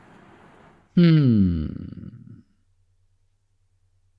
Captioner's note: exhale